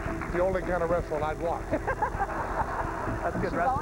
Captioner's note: laughter